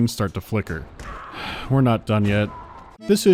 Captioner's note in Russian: вздох